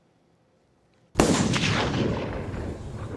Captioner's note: gunshot